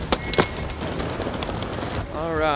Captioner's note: suitcase rolls on ground; suitcase click, whistle blows